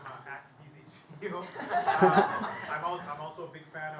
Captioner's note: laughter